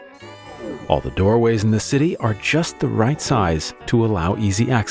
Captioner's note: lift sound; sound of door opening